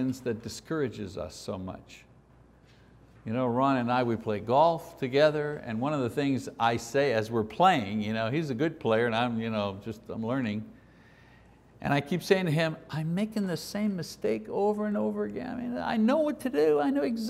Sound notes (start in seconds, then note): none